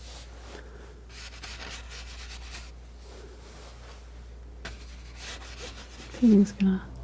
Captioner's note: scratching